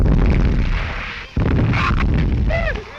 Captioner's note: whimpering